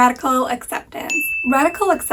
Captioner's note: bell pinging